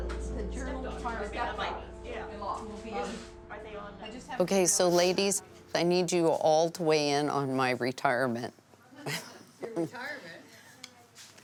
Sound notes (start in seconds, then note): 0.2 ladies chattering; 9.0 laughs